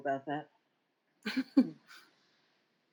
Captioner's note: chuckles